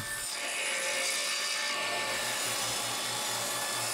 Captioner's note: machine whirs